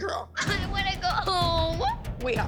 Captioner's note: crying